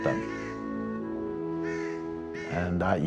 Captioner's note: crow cawing